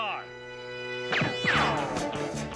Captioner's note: gun firing